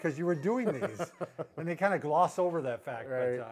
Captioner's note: laughs